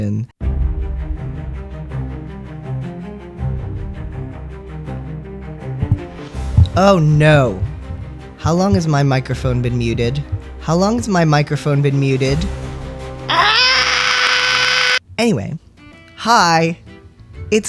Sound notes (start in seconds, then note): 0.2 tense music; 5.5 sound of mic turning on